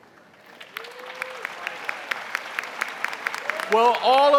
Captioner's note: audience applauding